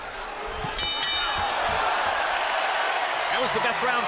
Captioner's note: bell dinging